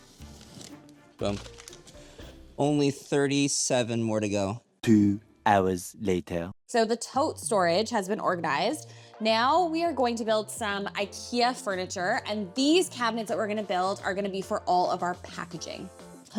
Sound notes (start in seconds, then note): 5.0 french Voice